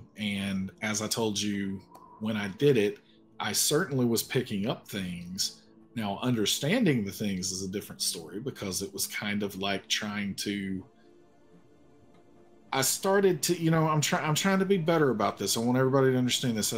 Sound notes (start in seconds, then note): none